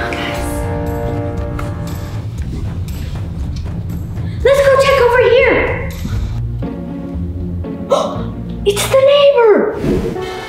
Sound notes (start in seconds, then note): 6.7 suspenseful music; 7.9 gasping